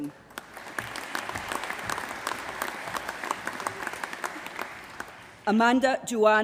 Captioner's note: applause